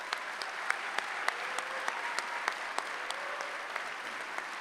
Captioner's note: applause